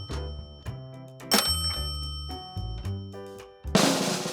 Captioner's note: alert chiming; cheerful music